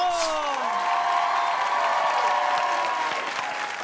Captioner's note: audience cheers